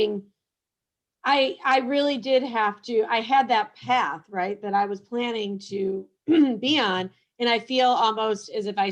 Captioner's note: cough